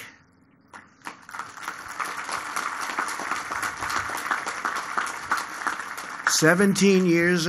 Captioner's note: applause